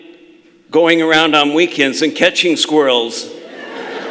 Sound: laughter

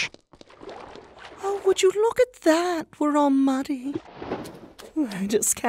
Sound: soft spoken

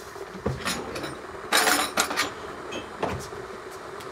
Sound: kettle rumbling

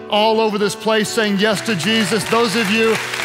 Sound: congregation clapping

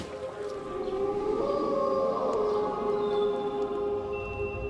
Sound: wolf howling

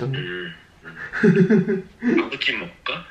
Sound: laughing

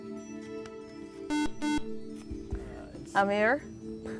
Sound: buzzer

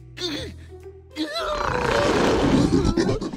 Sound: moans

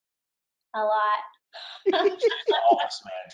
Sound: laughs; laughing

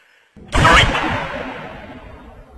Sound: sniper shot

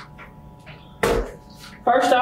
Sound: water bottle slamming

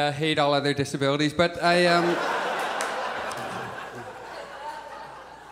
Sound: audience laughs

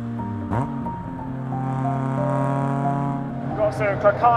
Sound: car engine revving; light hearted music

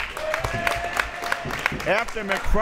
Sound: crowd members clapping

